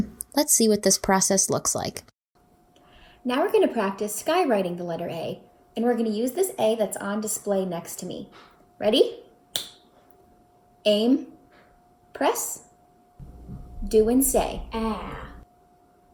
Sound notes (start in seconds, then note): 9.5 snaps